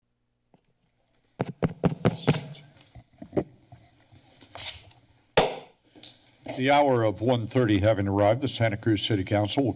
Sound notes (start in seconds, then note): 1.4 mic tapping; 5.4 taps gavel